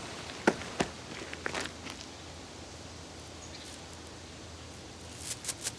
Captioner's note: car whirs; body thuds; duster rustles